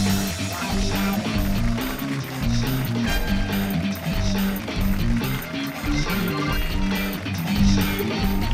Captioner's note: cheers and applause